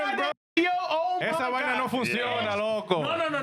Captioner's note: speaking In Spanish